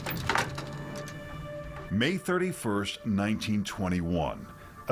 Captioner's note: door clangs closed